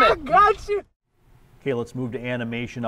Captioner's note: laughs